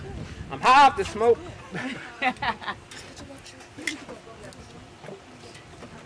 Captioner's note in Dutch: Tina lacht